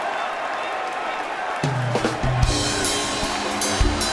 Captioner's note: cheers and Applause